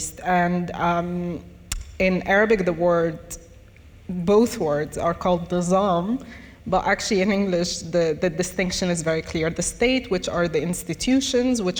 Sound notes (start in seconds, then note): 5.3 speaks in foreign language